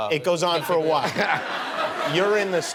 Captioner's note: laughter